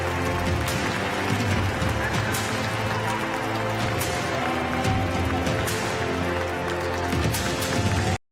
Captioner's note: applause